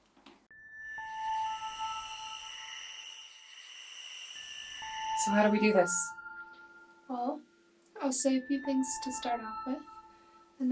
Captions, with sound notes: [crickets chirp] [eerie music] - So, how do we do this? - Well, I'll say a few things to start off with